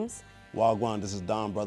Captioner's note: speaking in foreign language